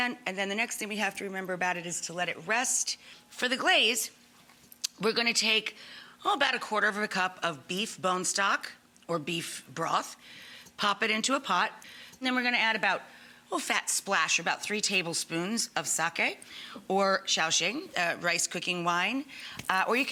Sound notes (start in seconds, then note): none